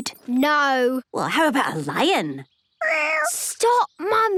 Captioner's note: small meow